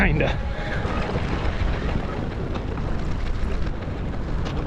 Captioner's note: wind blowing